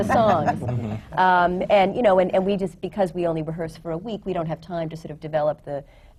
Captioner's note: laughter